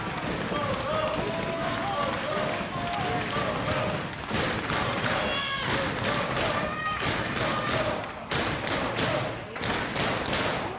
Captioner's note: crowd chatter